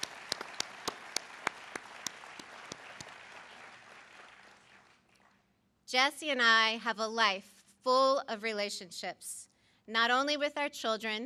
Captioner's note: applause